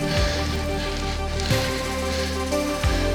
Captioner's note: breathing